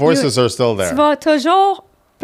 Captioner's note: in french